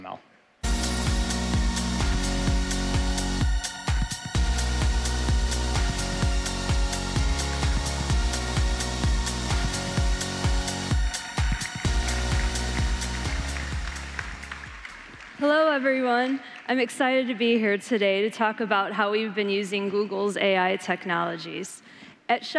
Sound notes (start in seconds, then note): 11.0 applause